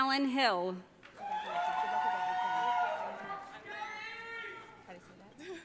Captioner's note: audience cheering